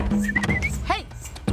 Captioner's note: whistling